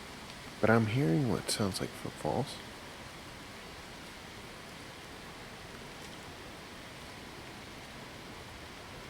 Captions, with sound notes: But I'm hearing what sounds like footfalls. (leaves rustling continues)